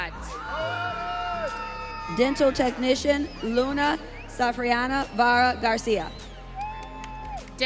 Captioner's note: audience cheering